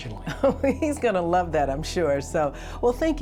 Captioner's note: chuckles